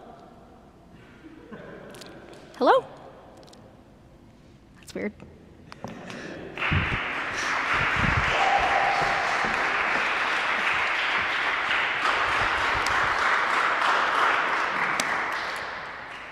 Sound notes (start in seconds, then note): 6.5 applause